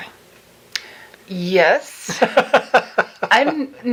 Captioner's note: laughing